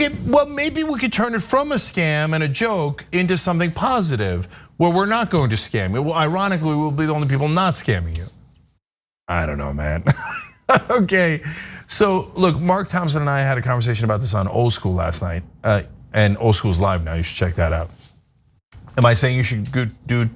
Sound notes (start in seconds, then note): 10.0 laugh